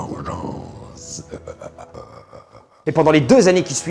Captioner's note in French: rire démoniaque